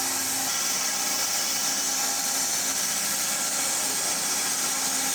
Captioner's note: saw whirring continues